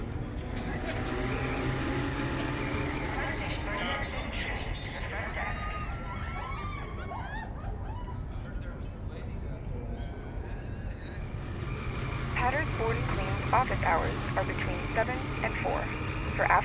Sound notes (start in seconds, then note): 5.8 excited screaming; 12.3 answering machine